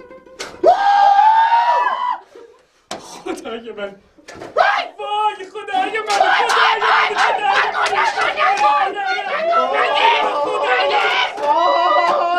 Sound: fake celebrating sound

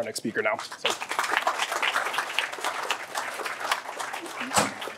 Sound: applause

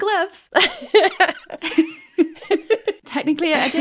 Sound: laughing

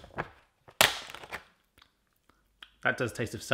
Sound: snapping

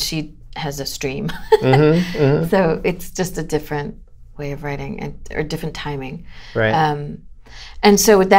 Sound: laughter

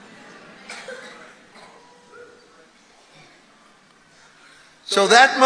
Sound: congregation muttering in agreement

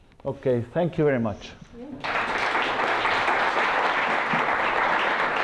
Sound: applause

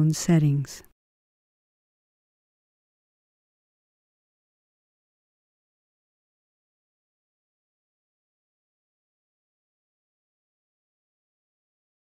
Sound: silence

